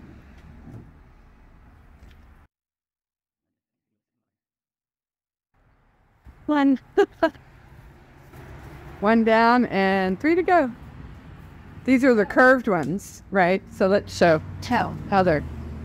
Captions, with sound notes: One! [Laugh] One down and three to go These are the curved ones right so let's show how they're